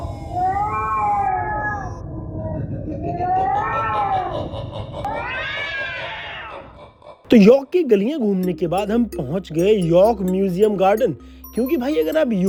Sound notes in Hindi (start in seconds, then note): 5.0 चीखने की आवाज़